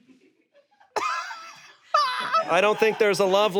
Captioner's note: laughs